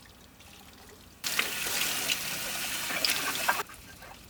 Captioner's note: water sloshing